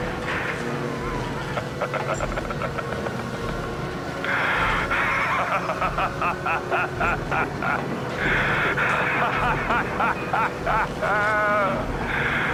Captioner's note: starts laughing maniacally